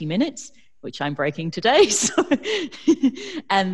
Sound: laughs

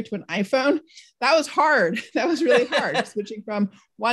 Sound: laughs

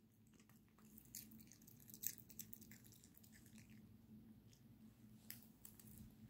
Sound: munching munching sounds

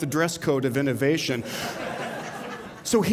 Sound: laughter

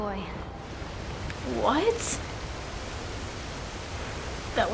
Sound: rushing water

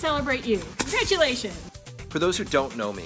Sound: pop noise

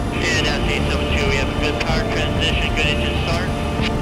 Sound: radio chatter

